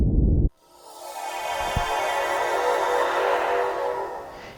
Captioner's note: transporter Sound